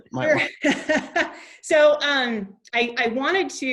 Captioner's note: laughs